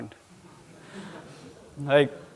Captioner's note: audience murmuring